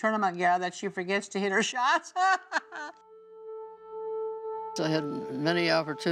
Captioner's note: laughing